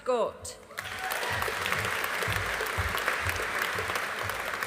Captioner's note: audience applauding